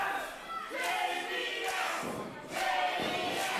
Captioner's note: crowd